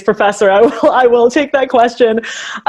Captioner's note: laughs